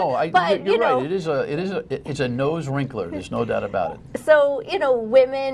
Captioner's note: laughter